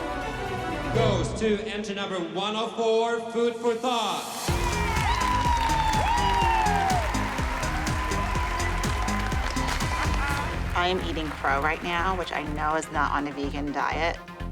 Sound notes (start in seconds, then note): 4.5 all cheering, whooping; 8.4 laughs